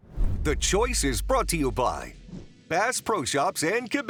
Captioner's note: voiceover